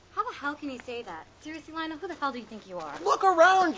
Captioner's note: none